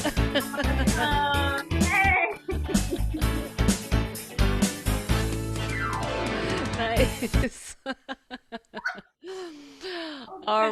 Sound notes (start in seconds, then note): 1.8 laughs; 6.9 both laugh